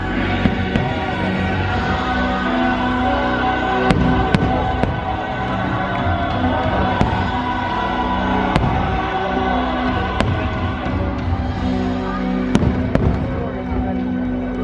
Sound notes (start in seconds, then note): 3.8 fireworks exploding